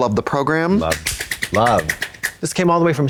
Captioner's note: Trixie claps